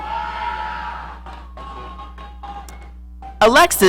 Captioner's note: audience cheering